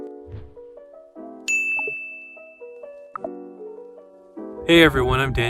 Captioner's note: mellow music; bell dings